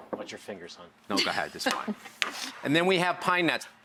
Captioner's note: giggling